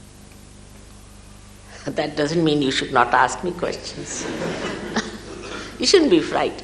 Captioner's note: laughter